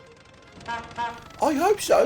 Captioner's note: jack honks horn